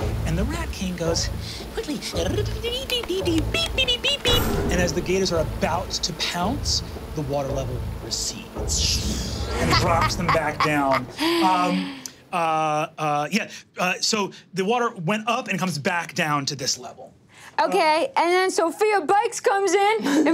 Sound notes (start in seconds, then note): 2.7 humming; 3.5 beeping